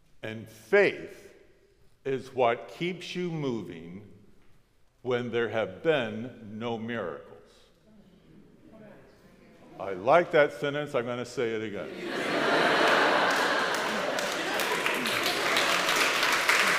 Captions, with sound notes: and faith is what keeps you moving when there have been no miracles. (crowd murmuring) I like that sentence, I'm going to say it again. (crowd laughs) (crows clapping)